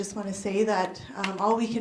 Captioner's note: none